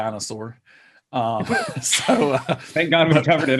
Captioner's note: laughing